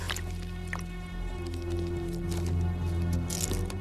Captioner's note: none